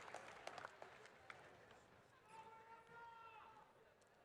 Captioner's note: applause